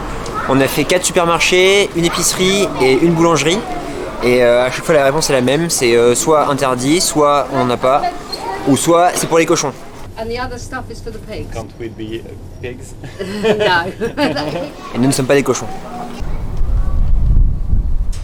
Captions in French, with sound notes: On a fait 4 supermarchés, une épicerie et une boulangerie. A chaque fois la réponse c'est la même. Soit interdit, soit on a rien ou soit c'est pour les cochons. Et le reste est pour les cochons. Est-ce qu'on peut être des cochons ? Non. (rires) Et nous ne sommes pas des cochons.